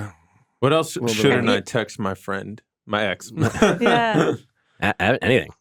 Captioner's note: laughs